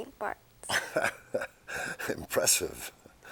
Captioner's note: chuckling